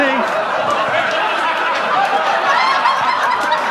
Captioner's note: audience laughs